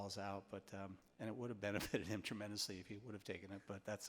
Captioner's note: laughs